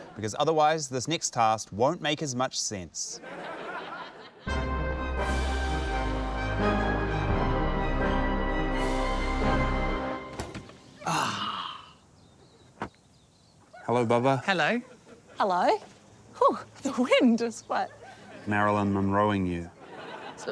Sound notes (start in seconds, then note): 4.4 dramatic orchestral music; 10.9 sighs